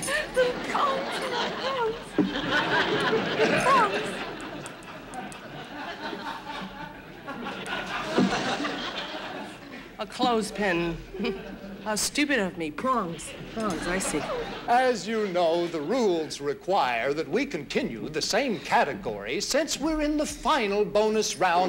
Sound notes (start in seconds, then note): 2.3 audience laughing; 10.8 chuckles